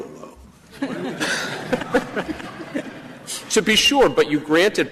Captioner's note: laughter